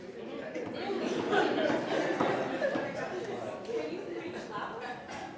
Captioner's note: laughter